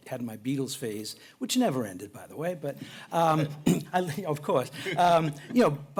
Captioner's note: chuckling